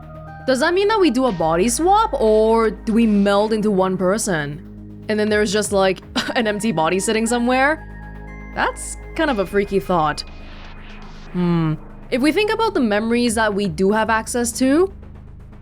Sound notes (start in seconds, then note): 6.2 scoffs